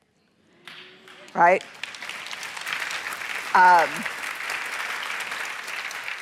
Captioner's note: applause